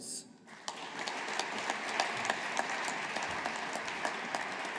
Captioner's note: audience applauding